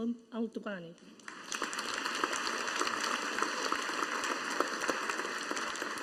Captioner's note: audience applauding